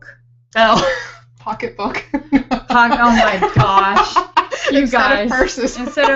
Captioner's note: laughing